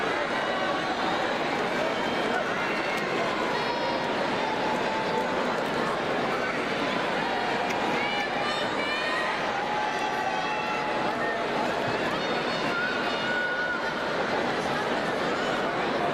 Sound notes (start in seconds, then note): 8.2 crowd cheers